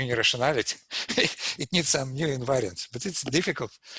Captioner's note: laughs